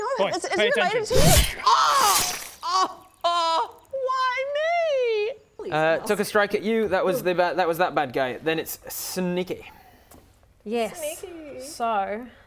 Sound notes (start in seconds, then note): 1.6 screams